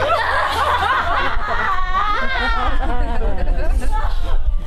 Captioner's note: audience laughs